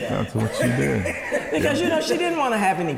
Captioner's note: interviewer laughing